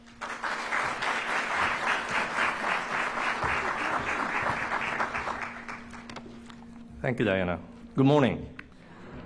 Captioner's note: applause